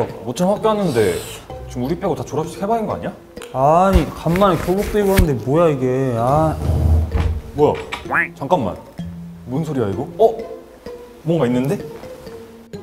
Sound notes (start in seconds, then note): 6.4 rumbling, bang!; 7.1 The Villain puppies are scared from the sound of the door closing